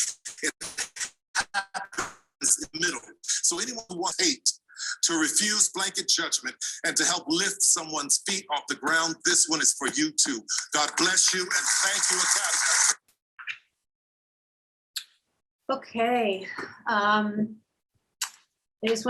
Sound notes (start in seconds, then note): 12.6 applause